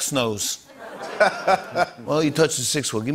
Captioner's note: laughter